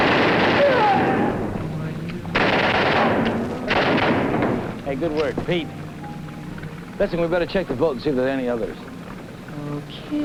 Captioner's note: gun shots